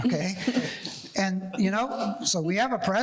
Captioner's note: panelists laughing